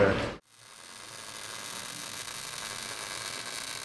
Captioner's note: welding